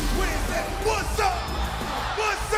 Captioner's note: crowd cheering